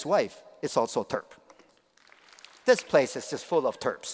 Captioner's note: applause